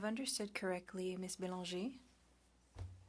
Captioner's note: speaking French